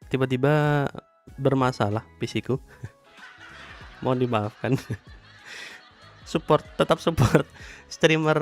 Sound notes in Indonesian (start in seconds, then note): 3.2 tertawa